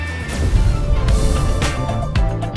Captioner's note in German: Explosion des BK42-Logos